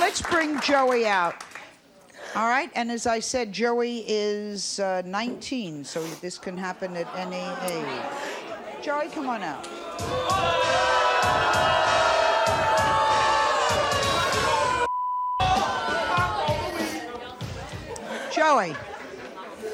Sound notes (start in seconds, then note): 9.6 audience boos; 9.8 hip-hop music